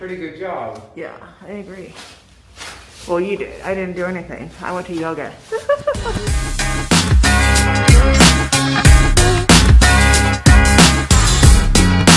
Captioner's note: laughs